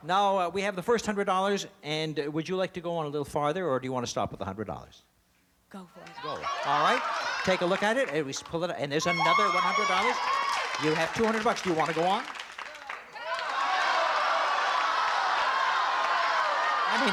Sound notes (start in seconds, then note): 11.6 cheering